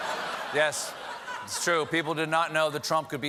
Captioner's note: laughter